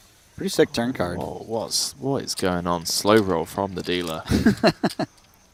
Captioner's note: laughs